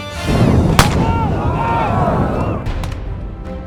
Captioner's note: fire flaring; men yelling